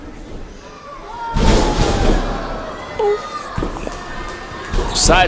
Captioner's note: stone hits floor and crowd exclaims